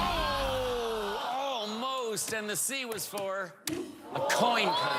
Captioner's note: audience groans; dramatic chord